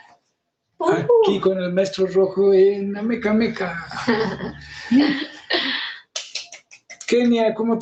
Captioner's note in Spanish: risas